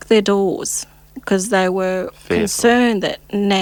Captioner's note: fearful